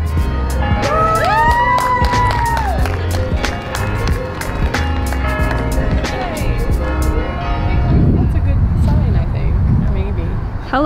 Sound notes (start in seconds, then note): 0.3 crowd cheers